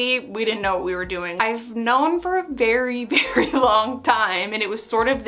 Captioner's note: laughing